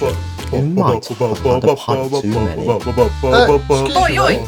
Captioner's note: background chanting; background chanting